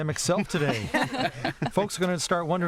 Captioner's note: laughter